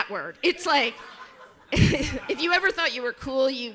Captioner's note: chuckles